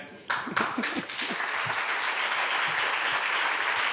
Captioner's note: applause